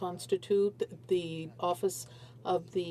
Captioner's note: speaking French